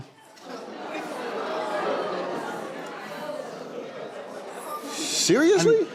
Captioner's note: audience disagreement